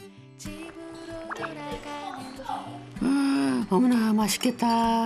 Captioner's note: bubbling